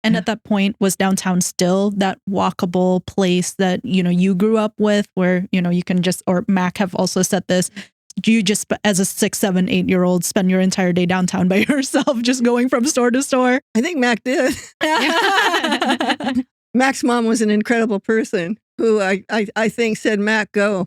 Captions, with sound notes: And at that point was downtown still that walkable place that you grew up with where you can just, or Mac have also said this, do you just as a six, seven, eight year old spend your entire day downtown by yourself just going from store to store? I think Mac did. (Both Laughing) Mac's mom was an incredible person who I think said, "Mac, go."